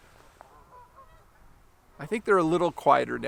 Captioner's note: geese honking